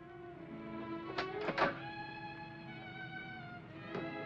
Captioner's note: door opens; soft whimsical music